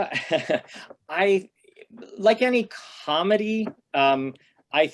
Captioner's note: laughter